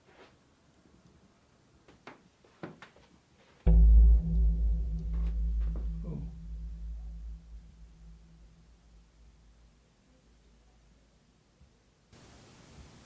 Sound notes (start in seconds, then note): 3.7 haunting sound effect; 9.1 faint voices chattering